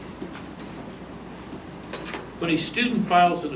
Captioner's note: reading from paper